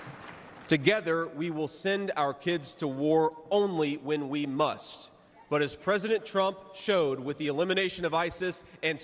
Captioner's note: cheers and applause